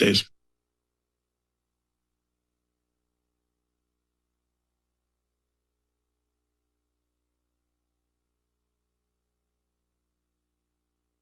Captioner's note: silence